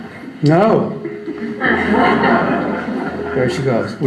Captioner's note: audience laughs